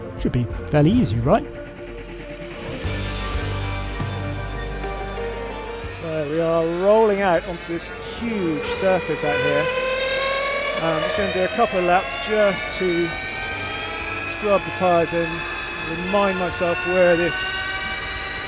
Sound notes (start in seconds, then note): 2.6 upbeat music; 10.0 engine revving; 18.2 engine revving